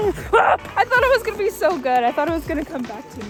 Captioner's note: screams